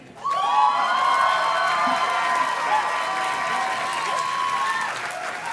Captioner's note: audience cheers and claps